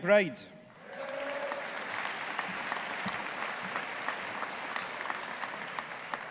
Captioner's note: audience applauding